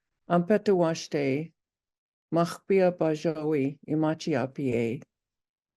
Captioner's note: speaking in native language